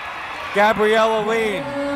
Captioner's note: cheering